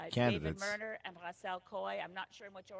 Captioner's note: speaking in French